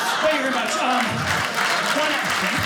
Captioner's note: audience applauding